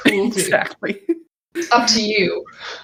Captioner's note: laugh